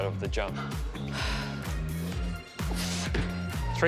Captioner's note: exhales sharply